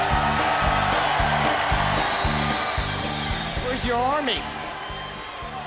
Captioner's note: crowd cheering